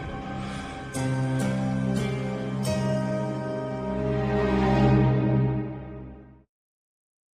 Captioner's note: breathing heavily